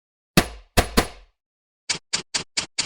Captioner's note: sound of bullets hitting screen